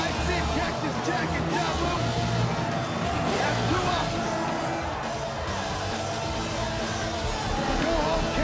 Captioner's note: crowd chatter